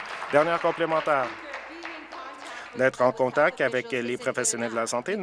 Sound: applause

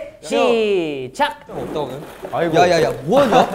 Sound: crashing

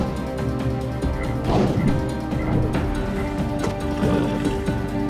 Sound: creature croaking; creature snorting

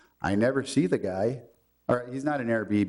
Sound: none

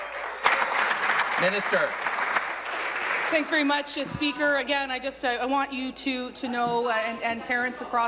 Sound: applause

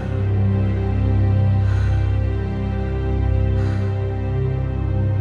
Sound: heavy breathing

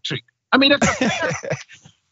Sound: laugh

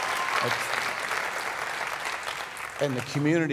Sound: crowd applauding

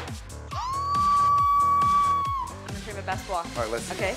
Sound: screams

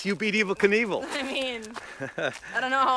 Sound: Lindsey chuckles

